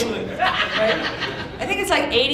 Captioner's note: audience laughing